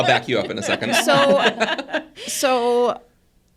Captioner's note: participants laughing